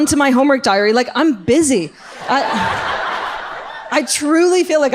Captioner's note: audience laughs